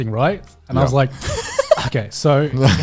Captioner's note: laughing